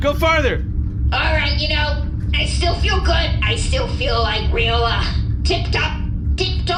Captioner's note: British accent